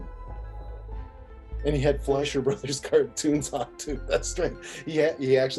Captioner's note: laughing